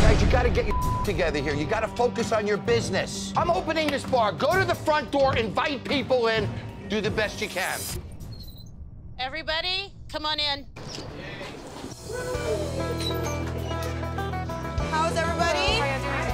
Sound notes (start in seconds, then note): 12.1 cheers